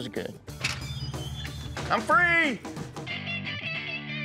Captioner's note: door opens